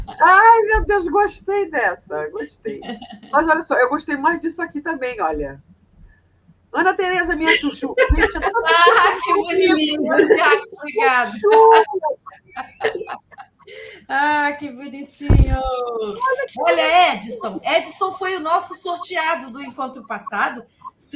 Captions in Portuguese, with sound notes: Ai, meu Deus. Gostei dessa. Gostei. Mas olha só, eu gostei mais disso aqui também. Olha. Ana Teresa, minha chuchu. [risadas] Ah, que bonitinho. Obrigado. Ah, que bonitinho. Olha, Edson. Edson foi o nosso sorteado do encontro passado.